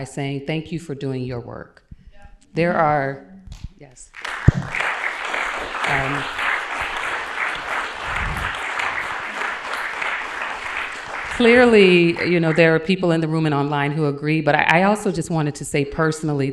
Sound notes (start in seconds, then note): 4.0 applause